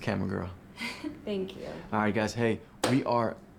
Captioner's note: giggles